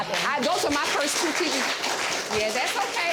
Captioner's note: audience applauds